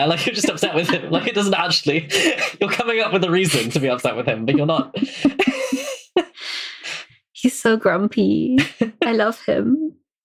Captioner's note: laughs